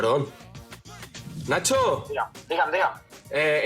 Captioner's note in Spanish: habla en otro idioma